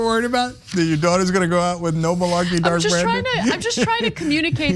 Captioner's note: laugh